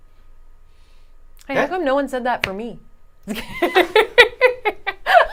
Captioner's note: laughing